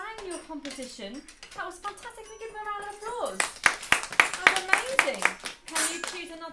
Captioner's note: applause